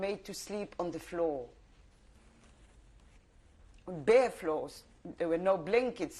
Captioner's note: pauses for 3 seconds